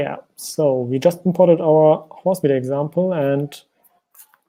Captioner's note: keyboard clicking